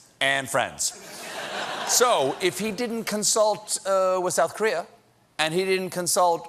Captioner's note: laughter